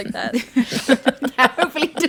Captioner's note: laughing